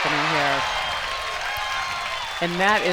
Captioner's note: crowd cheers